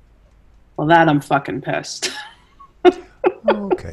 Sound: laughs

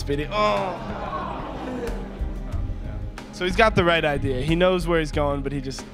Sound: groan

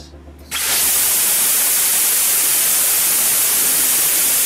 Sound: rocket whizzing

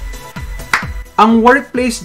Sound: clap!

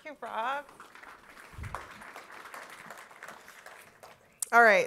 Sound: applause

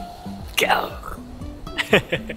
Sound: lion roar in Japanese

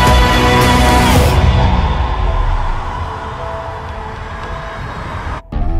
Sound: hundreds of people screaming

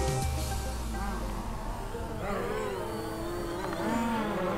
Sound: drone whirs

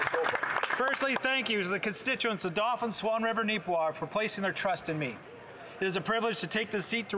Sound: some Applause

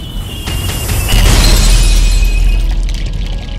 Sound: glass break

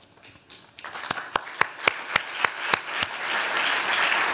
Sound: applause

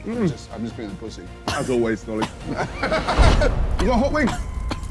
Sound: coughing

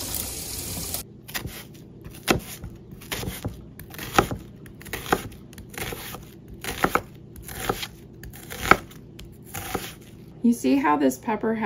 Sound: chopping onions

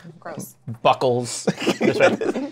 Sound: laughs

